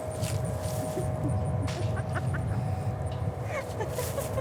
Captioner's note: laughing